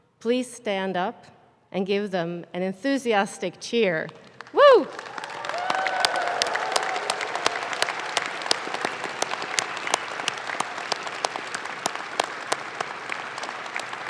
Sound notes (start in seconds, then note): 4.7 audience claps